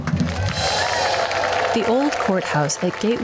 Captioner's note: crowd applauds